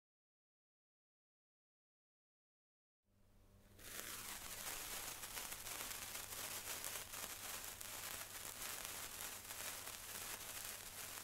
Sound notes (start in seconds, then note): 0.0 sound of sparkler